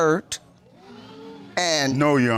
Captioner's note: audience exclaims